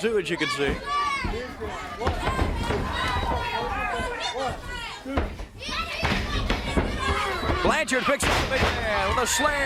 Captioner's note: crowd chatter